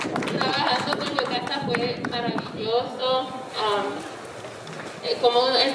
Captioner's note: speaking in foreign language